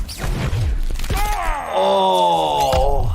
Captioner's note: fighting noises; grunting; breaking and snapping noises; grunting